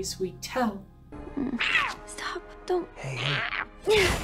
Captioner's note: cat noise I cant describe